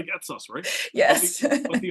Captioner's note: laugh